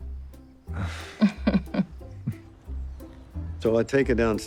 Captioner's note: chuckling